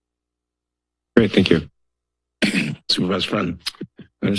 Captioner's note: clears throat